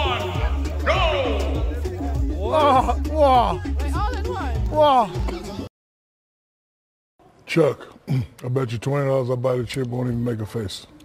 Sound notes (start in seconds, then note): 1.7 group makes sounds of shock and disbelief; 4.7 making sounds of shock and disbelief; 5.3 coughs